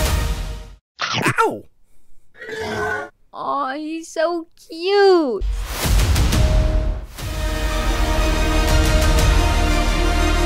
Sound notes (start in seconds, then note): 1.0 chomps; 2.4 softly roars